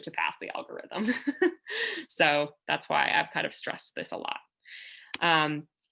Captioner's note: laughter